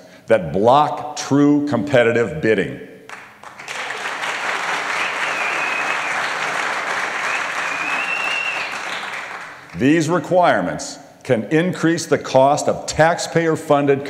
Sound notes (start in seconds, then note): 7.2 applause; 8.6 whistling